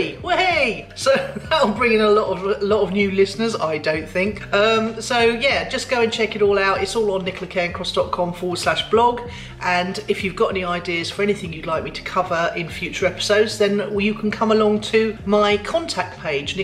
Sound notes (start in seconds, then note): 1.0 laughs